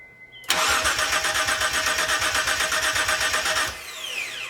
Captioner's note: engine cranks over